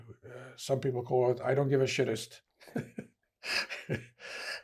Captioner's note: laughing